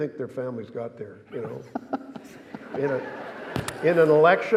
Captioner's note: laughing